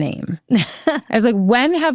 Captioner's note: laughing